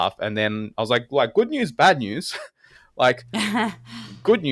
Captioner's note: laugh